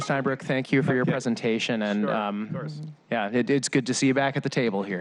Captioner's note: laughter